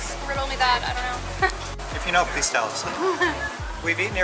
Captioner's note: laughter